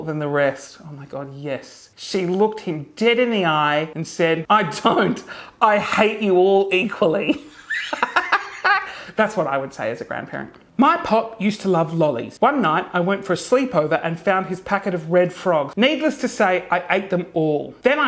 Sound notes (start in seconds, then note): 7.4 laughing hysterically